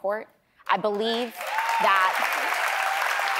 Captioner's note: applause